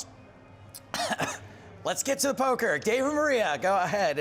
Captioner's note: coughs